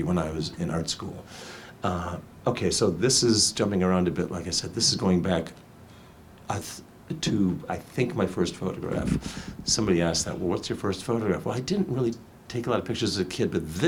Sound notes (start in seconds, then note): none